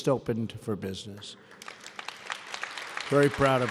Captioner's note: applause